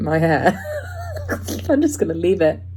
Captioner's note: snickers